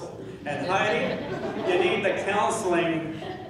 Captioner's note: laughing